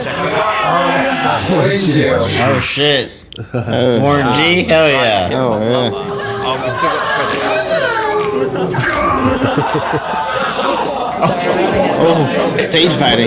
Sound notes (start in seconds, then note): 5.4 whines; 9.2 laughs; 9.2 shouts